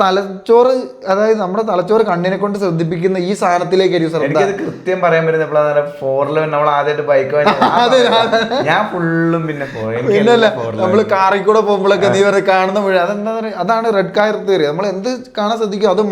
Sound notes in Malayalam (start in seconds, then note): 7.4 പൊട്ടിച്ചിരി